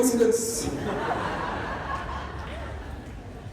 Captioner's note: laughter